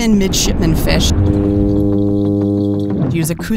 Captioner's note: fish humming